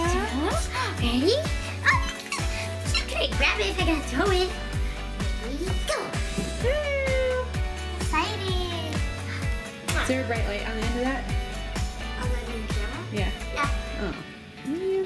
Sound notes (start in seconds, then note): 0.9 squeaking; 6.9 cheers